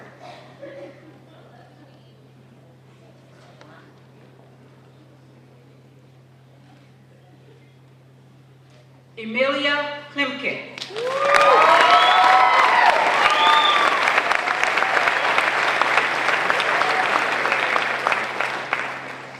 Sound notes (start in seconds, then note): 10.7 applause